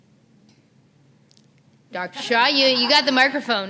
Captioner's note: laughter